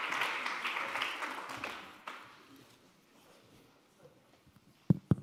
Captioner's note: applause